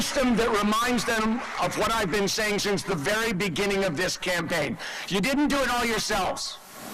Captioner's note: applause